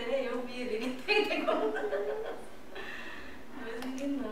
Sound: laughter

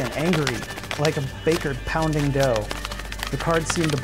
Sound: cards shuffling

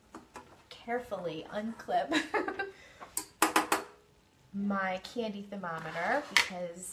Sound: laughs

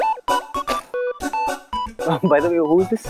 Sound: snickers

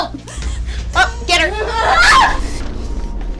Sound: screams

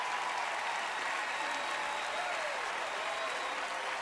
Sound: cheering, applause

